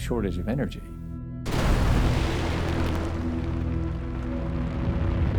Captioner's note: explosion booms